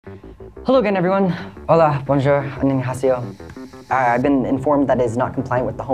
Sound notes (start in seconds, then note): 1.8 speaking foreign language